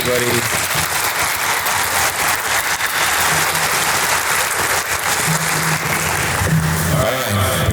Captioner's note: audience applause